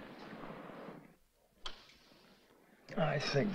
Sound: light clicks

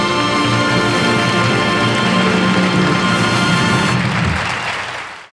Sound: audience applauding

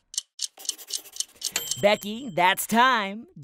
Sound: timer ticks and dings

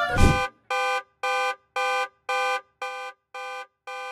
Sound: alarm ringing

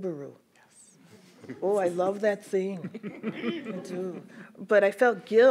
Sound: everyone chuckles

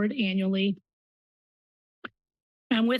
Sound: pause

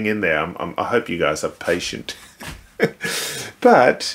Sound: chuckling

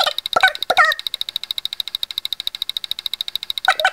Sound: clicking

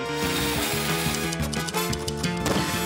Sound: typewriter clacks

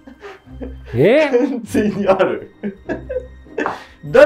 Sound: laughing

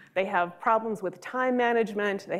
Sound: none

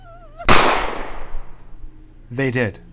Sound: gunshot

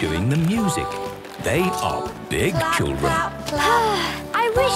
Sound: Belinda sighing

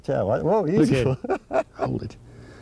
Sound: laughter

